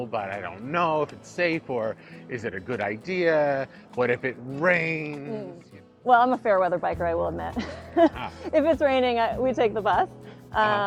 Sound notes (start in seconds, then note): 7.6 laughs